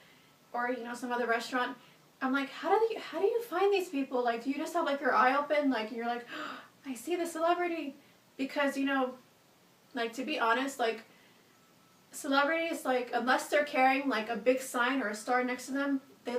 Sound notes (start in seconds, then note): 6.3 gasps